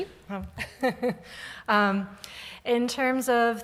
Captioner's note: laughs